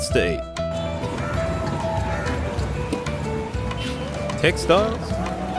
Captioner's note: market Sounds; tranquil Music